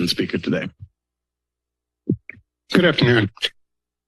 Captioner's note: silence